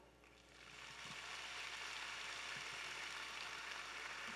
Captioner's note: audience applauding